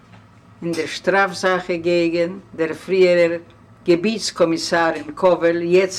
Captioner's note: reading in German language